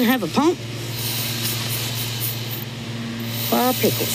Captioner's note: blowing continues